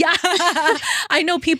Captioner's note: laughing